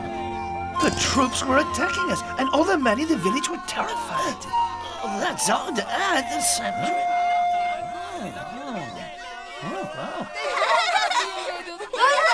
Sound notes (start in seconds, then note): 7.7 people cheering